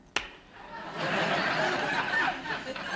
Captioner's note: laughter